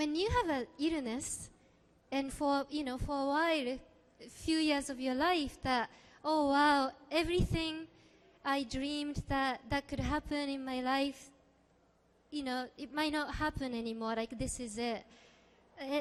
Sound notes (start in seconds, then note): none